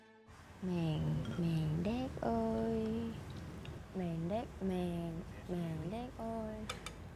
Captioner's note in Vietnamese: mumbling Southern slangs